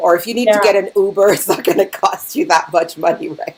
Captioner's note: chuckling